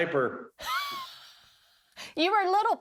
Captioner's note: laughing